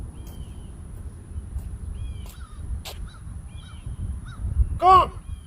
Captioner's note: birds cawing in distance